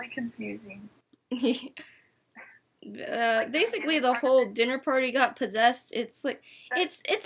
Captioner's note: laughs